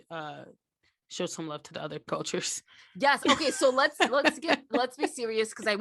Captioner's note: laughs